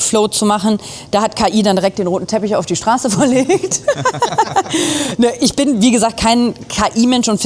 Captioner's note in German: gelächter